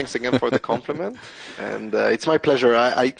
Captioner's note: laughs